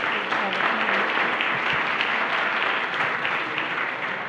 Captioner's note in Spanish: Aplausos